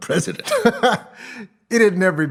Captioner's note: laughing